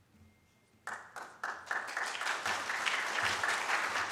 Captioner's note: audience claps